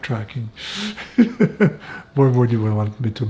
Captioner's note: laughing